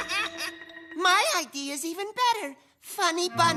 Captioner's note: laughs